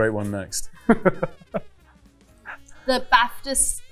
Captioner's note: Louis laughing